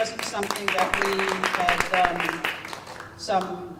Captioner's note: applause